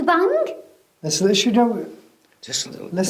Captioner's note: speaks quickly